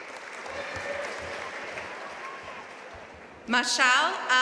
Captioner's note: audience applauding